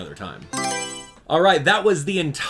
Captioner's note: Mario Selection Sound